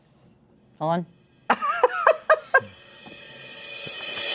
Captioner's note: laughs